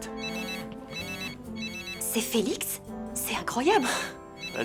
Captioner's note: phone ringing